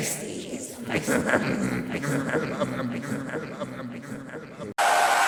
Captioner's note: chuckles